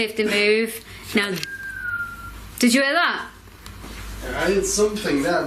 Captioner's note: whistling